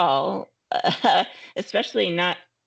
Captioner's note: chuckling